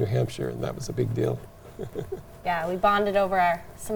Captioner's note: chuckles